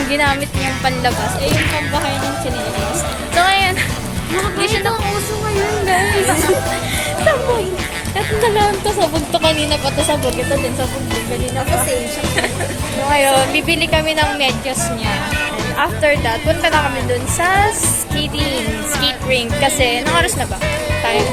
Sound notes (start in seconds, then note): 3.9 laughs